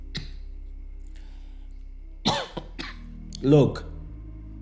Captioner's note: man coughing